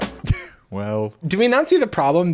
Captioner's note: laughing